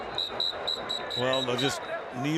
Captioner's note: whistling